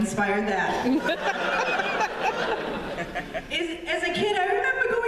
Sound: laughter

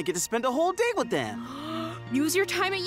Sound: gasping

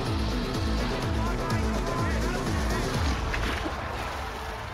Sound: suspenseful music; crowd cheering

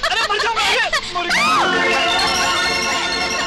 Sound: laughing

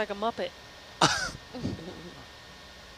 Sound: man laughs

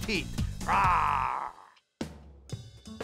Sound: growls

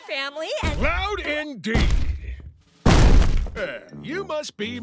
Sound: footsteps thumping

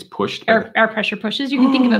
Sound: gasps

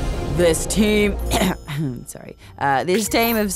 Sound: clears throat

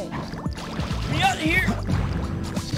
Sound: strained

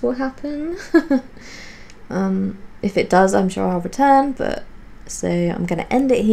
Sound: tentative giggles

